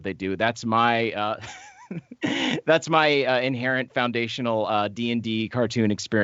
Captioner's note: laughs